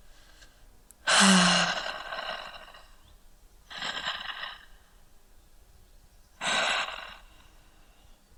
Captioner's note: deep breaths